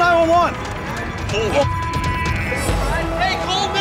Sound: beep

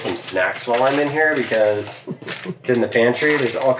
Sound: plastic rustling

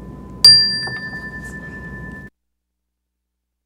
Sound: bell rings

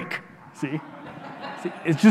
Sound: audience laughing

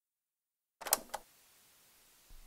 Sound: cassette noise

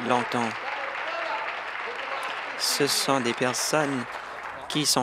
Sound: applause

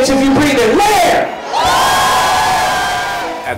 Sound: crowd screams

